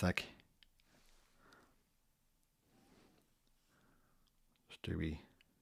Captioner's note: silence